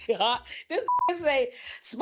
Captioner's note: beep